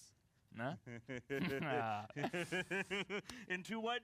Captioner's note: laughs